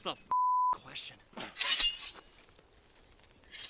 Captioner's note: blade unsheathing